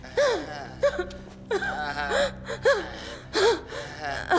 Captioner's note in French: Haletant